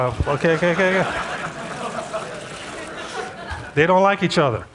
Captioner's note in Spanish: Risas